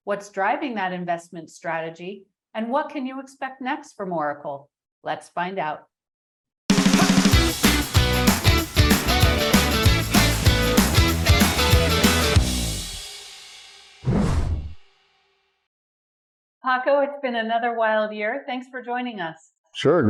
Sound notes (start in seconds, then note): 6.7 upbeat music; 14.0 logo whooshing